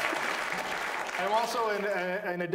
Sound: audience applauds

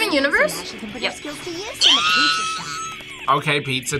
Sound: squeals

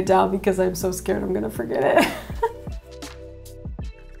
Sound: laughing

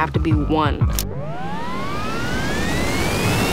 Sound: tape rewinding

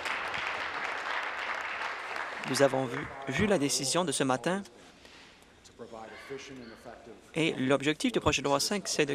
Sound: applause

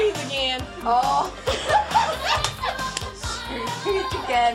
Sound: Sherri laughs

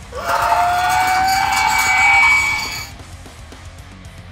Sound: roaring; metal rock music

